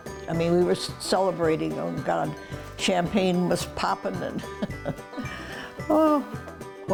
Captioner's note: laughs